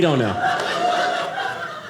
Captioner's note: audience laughing